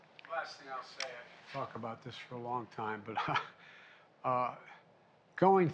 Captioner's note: laughs